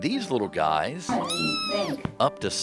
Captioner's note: cat meows